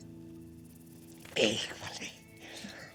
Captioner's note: spanish